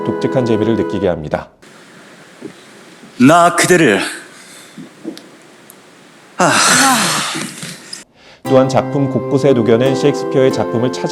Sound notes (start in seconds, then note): 6.3 sigh